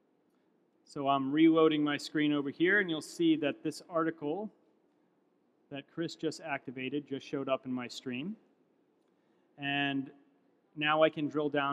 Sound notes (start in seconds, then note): none